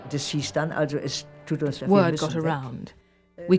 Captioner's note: speaking german